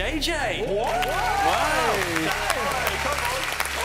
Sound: cheering

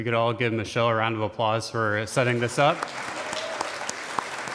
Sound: applause

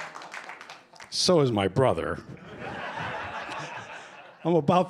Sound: laughter

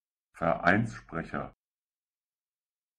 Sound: fast Pronunciation

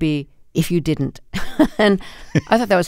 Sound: laughter

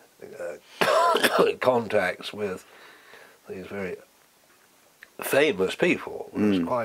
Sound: cough

